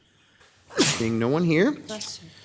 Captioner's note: attendee sneezes